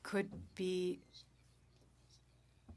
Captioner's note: speaking French